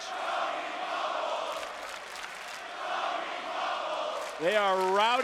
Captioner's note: audience cheering